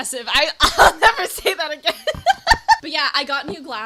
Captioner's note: laughing